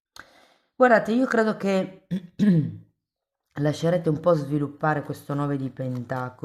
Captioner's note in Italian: schiarire la voce